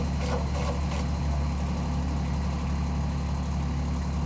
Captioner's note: screw gun spinning